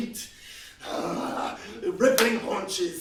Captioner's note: grunts